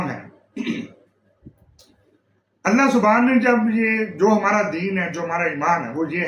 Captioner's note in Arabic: يُصفّي حلقه